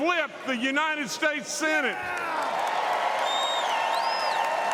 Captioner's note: applause